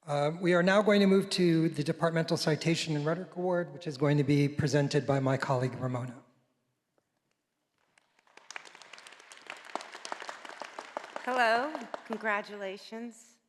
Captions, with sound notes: We are now going to move to the Departmental Citation and Rhetoric Award, which is going to be presented by my colleague Ramona. (audience applauding) - Hello, congratulations.